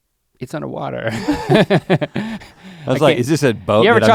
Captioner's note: chuckles